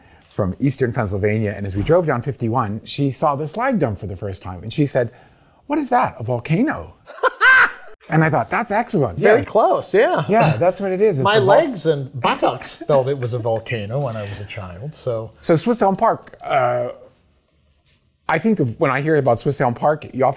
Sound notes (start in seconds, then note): 7.0 laughs